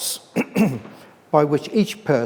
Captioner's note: clears throat